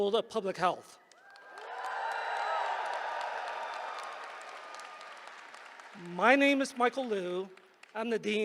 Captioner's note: applause